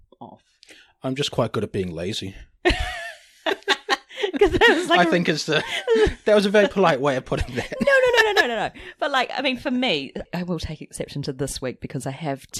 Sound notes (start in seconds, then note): 3.4 laughs